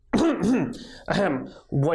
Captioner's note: clearing throat